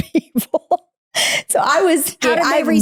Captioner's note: laughing